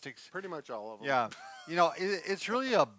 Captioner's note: laughing